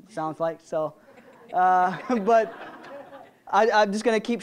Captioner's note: audience laughing